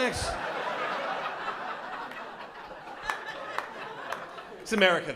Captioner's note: laughter